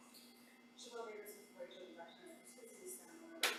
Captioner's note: faintly speaking